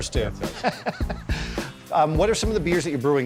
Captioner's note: laughing